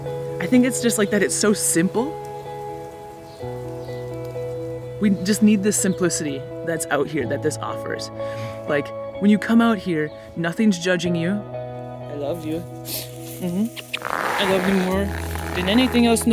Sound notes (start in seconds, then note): 12.8 smooching